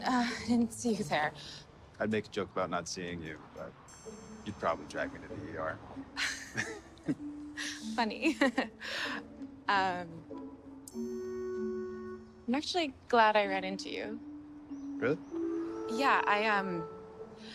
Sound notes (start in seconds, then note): 6.2 both chuckling